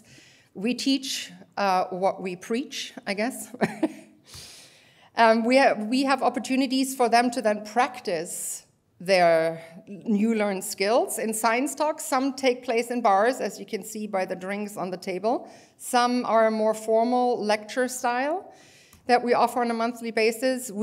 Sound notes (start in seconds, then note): 3.6 laughter